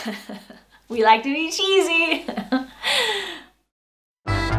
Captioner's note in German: Gelächter